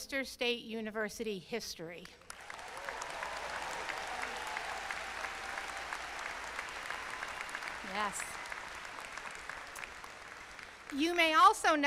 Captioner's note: applause